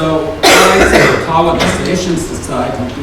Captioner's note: loud coughing covers speech